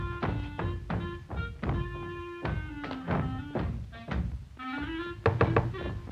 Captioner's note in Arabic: ضربات الأقدام من الأعلى; عزف الكلارينيت; طرق على الباب